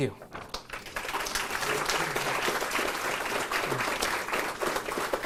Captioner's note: audience applauds